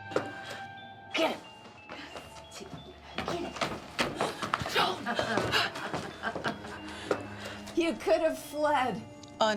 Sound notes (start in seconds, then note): 4.7 Ramona laughing